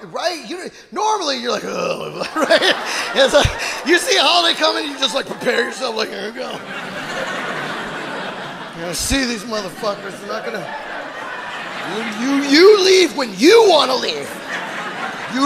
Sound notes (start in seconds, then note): 7.0 audience laughing